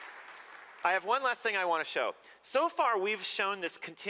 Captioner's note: applause